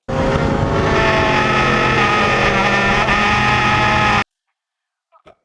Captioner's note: tires screeching